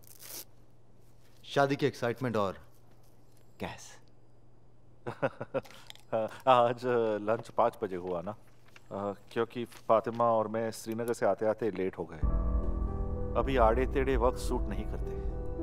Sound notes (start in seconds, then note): 5.0 Laughing